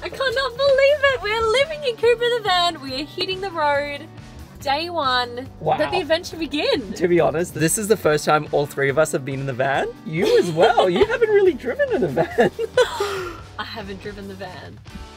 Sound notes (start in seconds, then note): 10.2 laughing; 12.8 laughing